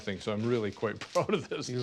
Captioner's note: laughs